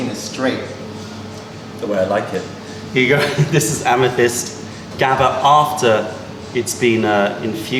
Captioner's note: laughter